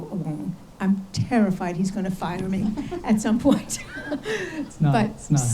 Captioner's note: laughs